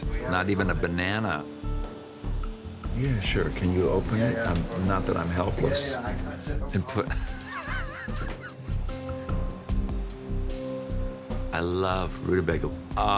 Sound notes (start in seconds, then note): 7.0 laughing; 8.7 intriguing music